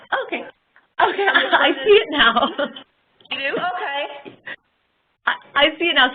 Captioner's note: laughing